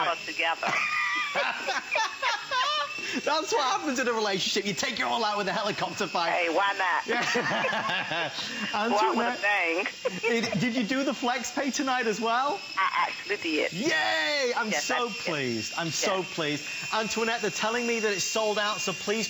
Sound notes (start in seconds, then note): 2.3 laughter; 9.8 laughter